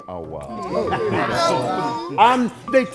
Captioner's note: laughter